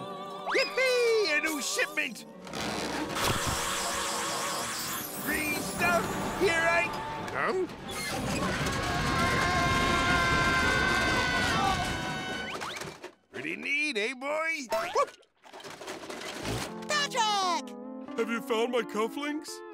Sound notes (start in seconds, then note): 2.9 sucking; 7.7 rumbling; 8.4 both screaming